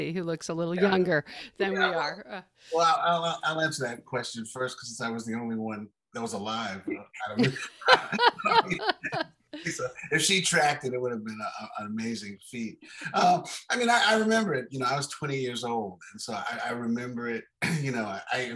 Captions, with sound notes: who looks a little younger than we are. - Well, I'll answer that question first, 'cause I was the only one that was alive. (laughing) If she tracked it, it would have been an amazing feat. I mean, I remember it, I was 20 years old, and so I remember it, I mean,